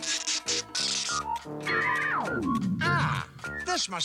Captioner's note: powers down